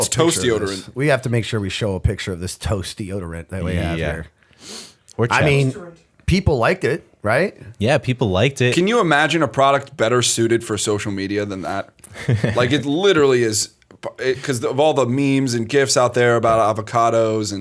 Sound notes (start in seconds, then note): 12.0 chuckle